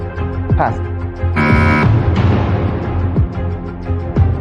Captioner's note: buzzer sounds